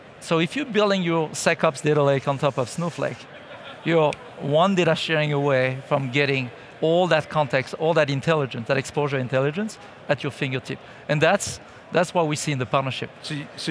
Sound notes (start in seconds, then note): 5.1 fingers snapping